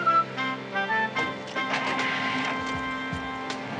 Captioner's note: engine starts; upbeat theme playing